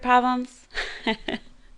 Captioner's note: laughter